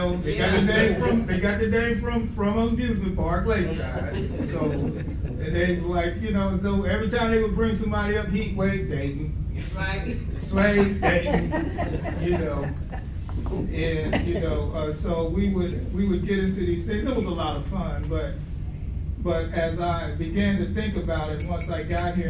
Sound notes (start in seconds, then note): 10.2 audience laughs